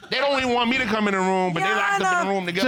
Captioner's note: none